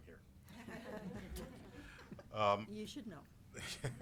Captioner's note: all laughing